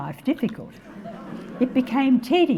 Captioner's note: audience laughing